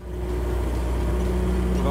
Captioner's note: engine Noise